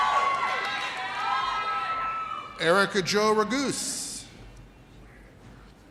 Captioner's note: audience cheers